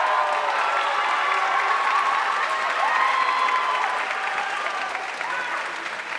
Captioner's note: audience cheering and applauding